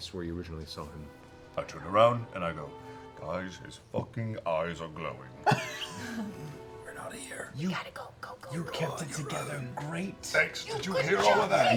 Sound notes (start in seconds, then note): 5.8 whispers